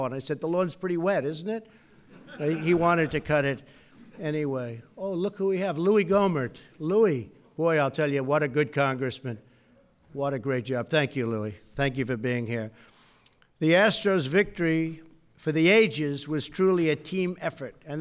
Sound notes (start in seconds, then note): 2.0 laughter